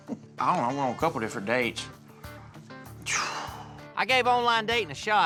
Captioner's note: sighs